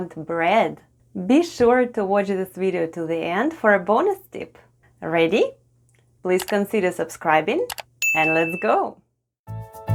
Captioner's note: click & ding sounds